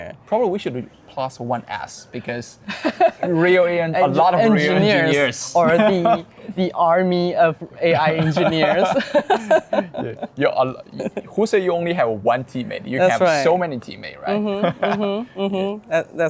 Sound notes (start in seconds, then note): 8.0 both laughing; 14.4 laughing